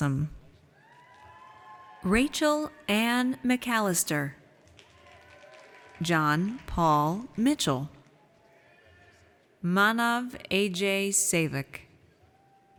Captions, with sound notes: (audience cheers) Rachel Anne McAllister. (audience cheers) John Paul Mitchell. Manav Ajay Sevak.